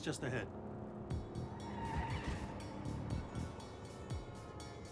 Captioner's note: tires squeal